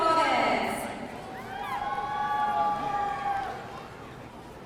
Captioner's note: audience cheering